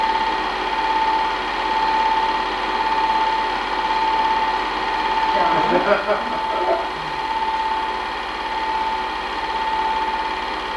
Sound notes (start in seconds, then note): 5.3 laughing